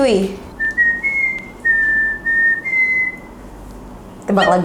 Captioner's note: whistling